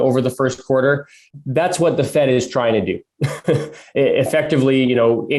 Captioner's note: laughs